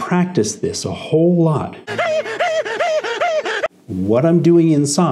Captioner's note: SpongeBob breathing heavily